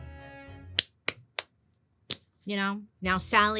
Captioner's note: clapping hands